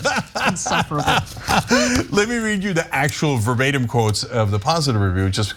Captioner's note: laugh